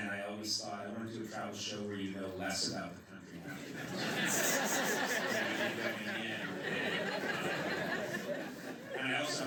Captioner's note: laughter